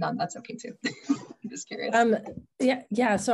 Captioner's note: laughing